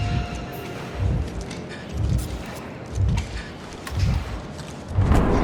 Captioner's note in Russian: дрон движется с равномерными щелчками и шипением клапанов